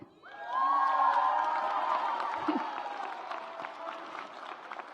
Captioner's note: audience applauds